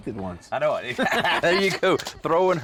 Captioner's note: both laugh